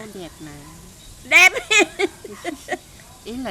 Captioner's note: laugh